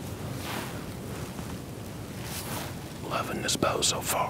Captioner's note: whispering